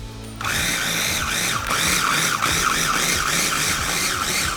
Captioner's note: food processor whirring